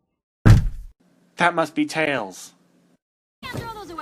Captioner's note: thud